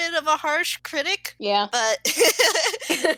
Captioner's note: laugh